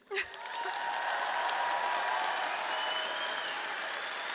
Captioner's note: audience applauding